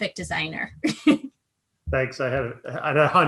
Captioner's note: chuckles